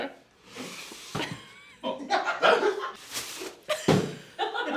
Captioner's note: laughter; box thuds; laughs